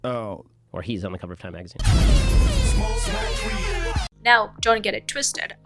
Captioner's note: air horn